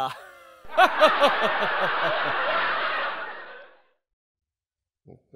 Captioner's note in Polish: Ha ha ha ha ha prawdopodobnie szatański śmiech albo go symulujący